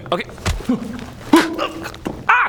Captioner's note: hrgh!